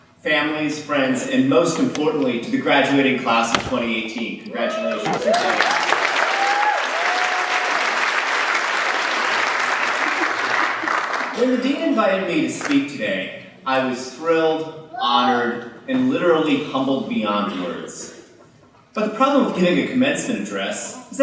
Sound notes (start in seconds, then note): 5.0 applause